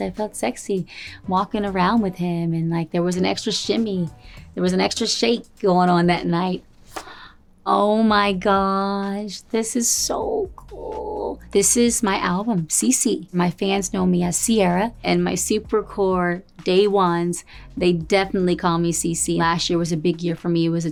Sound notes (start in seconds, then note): 7.0 gasps